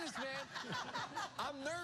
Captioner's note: laughter